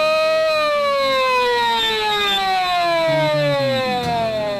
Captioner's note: siren rings